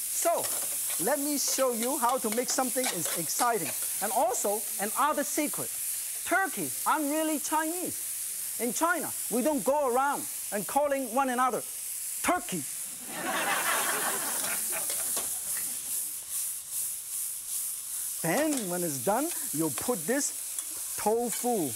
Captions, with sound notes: so lemme show you how to make something exciting and also another secret Turkey, I'm really Chinese In China we don't go around calling one another "Turkey!" (audience laughs) (Pot sizzles) and when it's done you'll put this tofu